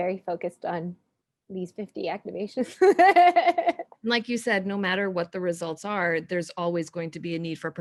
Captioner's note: laughing